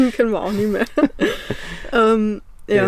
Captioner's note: laughting